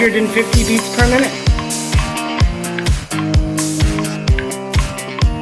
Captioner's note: rhythmic clicking